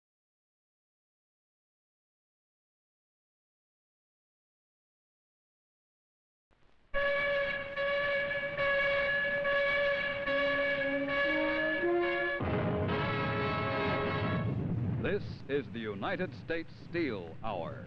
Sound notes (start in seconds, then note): 7.2 theme music; 12.0 blasting noise